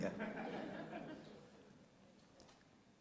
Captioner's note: laughter